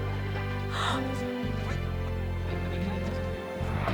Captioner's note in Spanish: música suave; Kate jadea